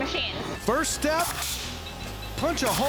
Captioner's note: grinding, cutting sound